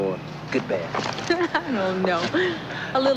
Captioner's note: laughs